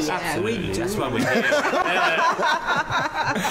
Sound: laughter

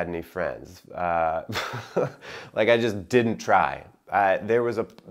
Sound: chuckling

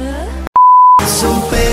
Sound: beep

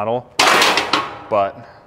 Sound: metal chinking

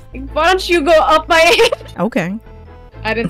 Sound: laugh

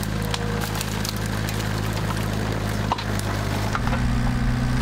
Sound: engine roaring

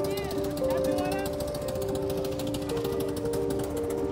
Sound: indistinct chatter

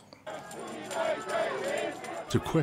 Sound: people shouting in foreign language

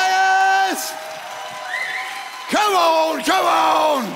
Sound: congregants applauds

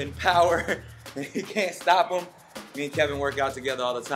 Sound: laughs

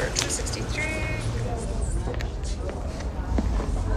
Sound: background Chatter

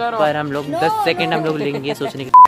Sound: laughs

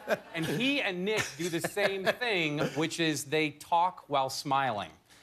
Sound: laughter

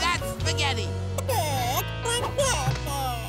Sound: cackling

